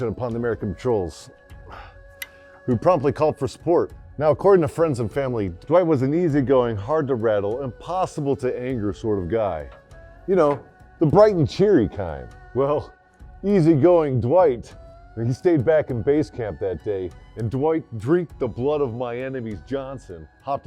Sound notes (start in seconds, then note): 3.9 voiceover